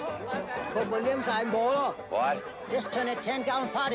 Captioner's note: speaking cantonese